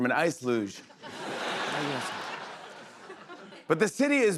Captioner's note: laughter